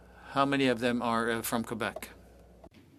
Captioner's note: speaking french